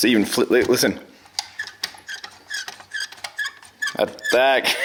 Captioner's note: squeaking; laughs